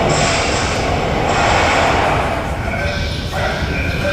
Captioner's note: gun shot